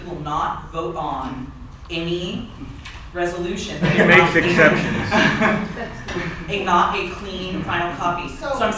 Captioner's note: laughter